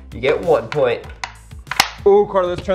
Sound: tracks clicking together

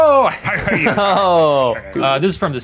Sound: chuckle

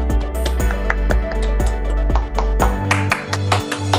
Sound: applauding

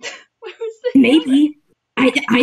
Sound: quietly

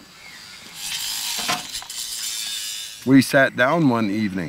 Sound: power tools buzzing

